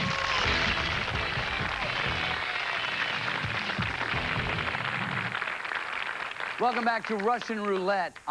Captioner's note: cheers and applause